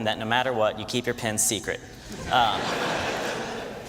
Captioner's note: laughter